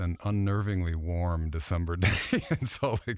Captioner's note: laughing